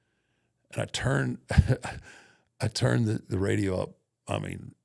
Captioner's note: chuckles